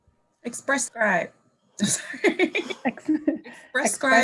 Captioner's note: laughing